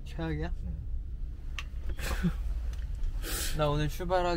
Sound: haha

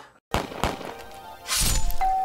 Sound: gun Shots in video game; knife Slices; door Bell

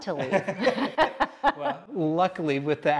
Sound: both laughing

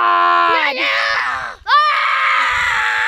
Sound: screams

